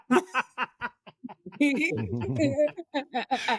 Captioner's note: laughing